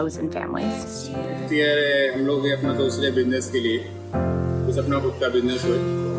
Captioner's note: speaks in Hindi